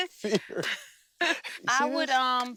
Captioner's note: both laugh